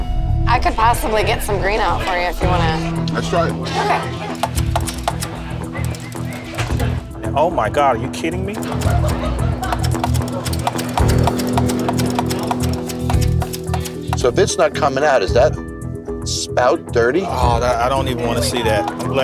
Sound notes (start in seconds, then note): 4.2 rattling; 8.5 rattling, clanking